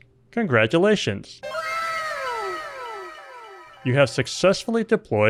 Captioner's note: anime "wow!" sound effect